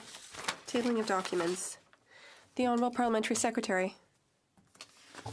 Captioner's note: speaking French